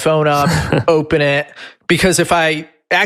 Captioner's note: laughs